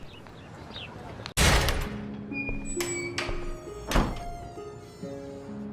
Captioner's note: bathroom Door Opens and Closes